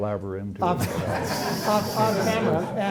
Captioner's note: laughter